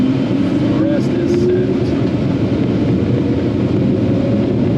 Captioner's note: engine roaring